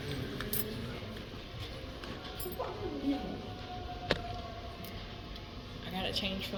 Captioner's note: sighs; white noise